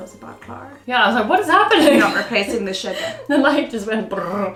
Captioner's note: laughing